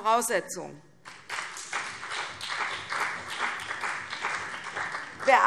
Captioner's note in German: Beifall CDU und BÜNDNIS 90/DIE GRÜNEN